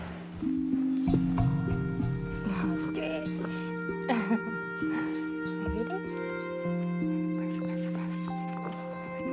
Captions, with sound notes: (CHUCKLES) Oh. Stretch. (LAUGHS) Are you ready? Brush, brush, brush.